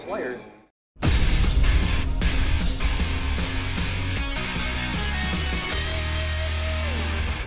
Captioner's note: explosion blasts; upbeat rock music